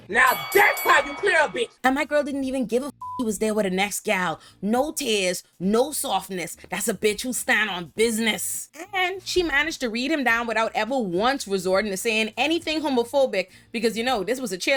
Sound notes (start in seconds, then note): 3.0 beep